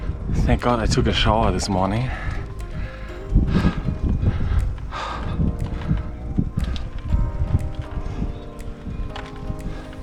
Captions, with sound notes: Thank god, I took a shower this morning! *panting*